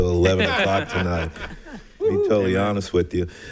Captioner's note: all laughing